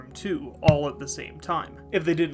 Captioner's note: stamp noise